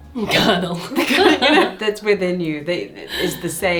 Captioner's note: laughs